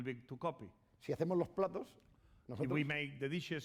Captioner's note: speaking spanish